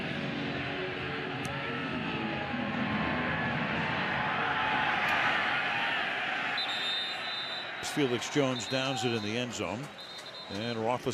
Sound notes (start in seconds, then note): 6.5 whistle